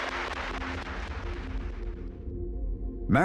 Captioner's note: audience applaud